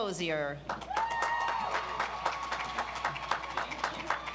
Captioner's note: audience applauds